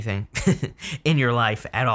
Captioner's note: narrator laughing